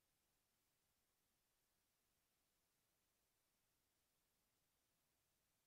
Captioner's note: none